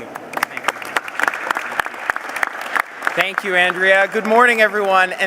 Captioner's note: applause